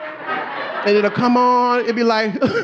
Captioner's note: audience laughing